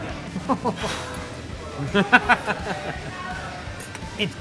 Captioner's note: both laugh